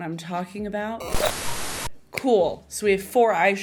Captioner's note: static whirring